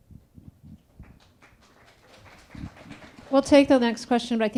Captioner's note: attendees applauding